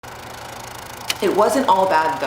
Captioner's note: film roll ticking